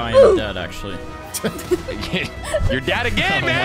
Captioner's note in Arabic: الكل يضحك